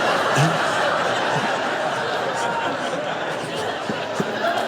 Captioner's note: congregation laughs; Eckhart laughs